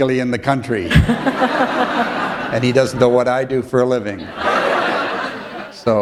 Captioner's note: laughter